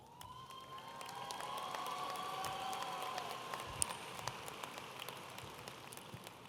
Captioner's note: audience applauding and cheering